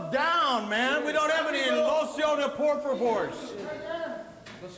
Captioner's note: speaks Spanish